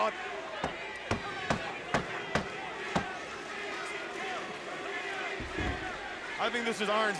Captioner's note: crowd cheering